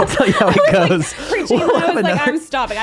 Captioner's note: laughing